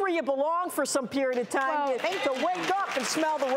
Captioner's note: cheering